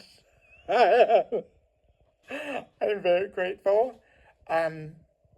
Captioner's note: laughs